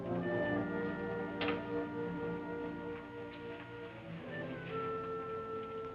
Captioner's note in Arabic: مقبض الباب ينقر